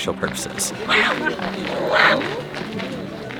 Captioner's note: jaguar noises